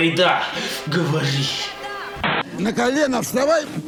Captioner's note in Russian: помехи